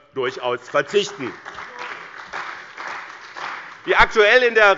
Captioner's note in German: Beifall bei dem BÜNDNIS 90/DIE GRÜNEN und der CDU